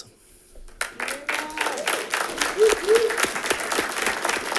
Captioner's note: audience clapping